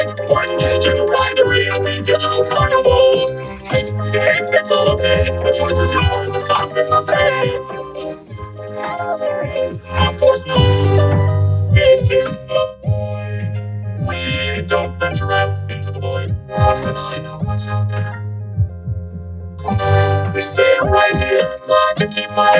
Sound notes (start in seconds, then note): 16.5 spooky voice